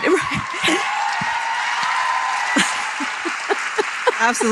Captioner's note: applause